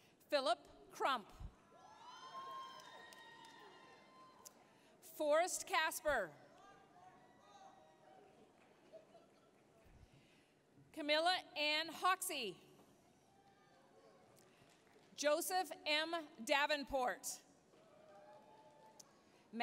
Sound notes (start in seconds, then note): 1.8 applause, cheering; 8.2 applause; 13.0 applause, cheering; 17.8 applause, cheering